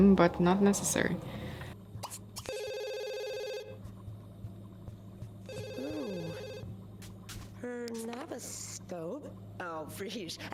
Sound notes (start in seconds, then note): 1.2 phone ringing